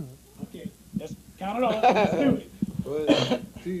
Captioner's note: laughter